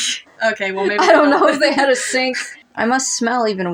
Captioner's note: laughing; chuckle; snicker